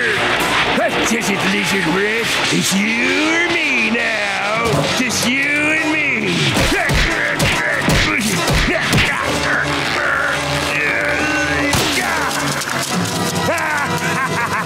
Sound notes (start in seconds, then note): 6.5 grunting; 13.2 maniacal laughing